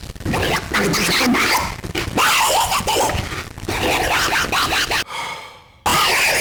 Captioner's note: muttering statickly; sighing; muttering statickly